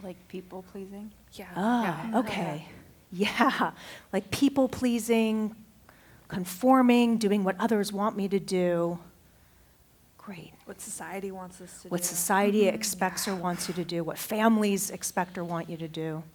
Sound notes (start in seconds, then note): 2.2 affirmative chatter